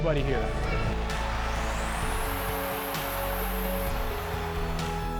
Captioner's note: crowd cheering